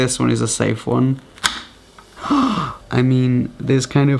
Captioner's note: gasps